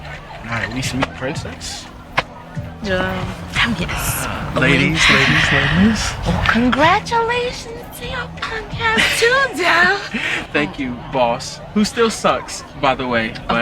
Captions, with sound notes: All right, we sweet, princess. - Hell yes. - Ah, ladies, ladies, ladies. - Oh, congratulations to your punk ass too, Dell. (Dell laughing) - Thank you, boss. Who still sucks, by the way,